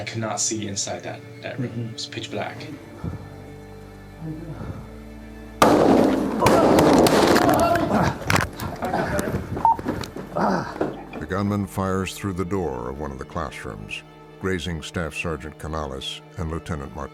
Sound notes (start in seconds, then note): 2.6 breathing slowly; 5.6 gun firing; 6.7 yelling; 7.4 grunts; 9.1 groaning; 9.6 radio beeps